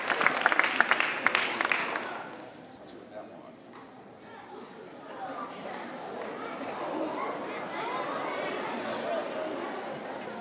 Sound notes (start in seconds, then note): 5.4 audience exclaiming